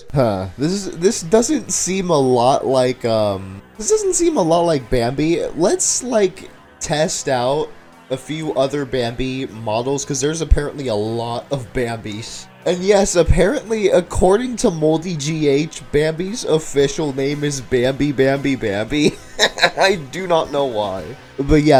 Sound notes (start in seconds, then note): 19.0 laughing